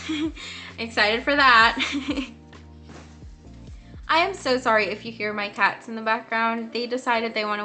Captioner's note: awkward laugh